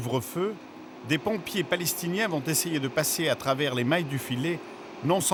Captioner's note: French spoken audio